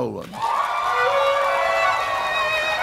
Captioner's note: applause; gentle music